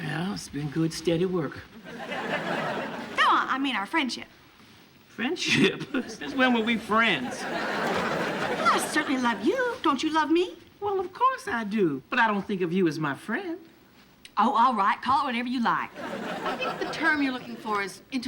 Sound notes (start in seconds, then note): 5.6 chuckles